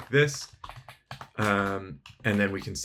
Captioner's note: keyboard clanking